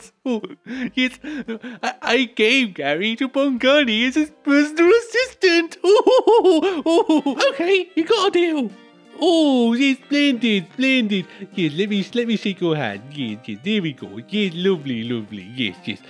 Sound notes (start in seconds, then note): 5.8 Stalin laughs